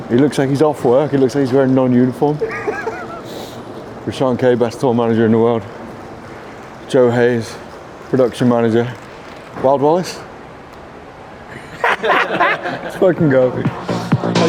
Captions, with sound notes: He looks like he's off work. He looks like he's wearing non-uniform. (laughter) Rashun K, best tour manager in the world. Joe Hayes, production manager. Wild Wallace (laughter) Let's fucking go.